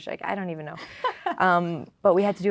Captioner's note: laughing